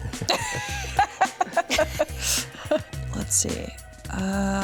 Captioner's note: everyone laughs